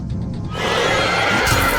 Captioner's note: angry roar; swoosh